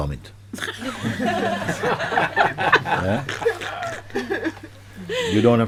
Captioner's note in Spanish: Risas